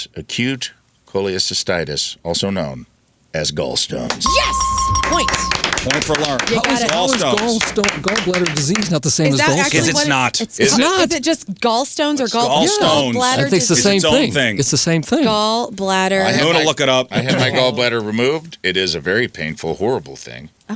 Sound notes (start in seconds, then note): 4.1 clapping